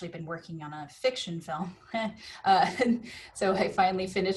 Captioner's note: laughs